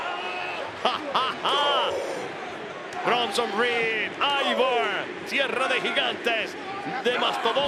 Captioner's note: laugh